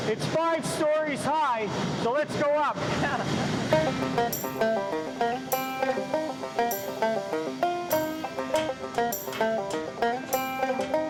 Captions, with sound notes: it's five-stories high, so, let's go up. - (chuckling) Yeah. (upbeat country music)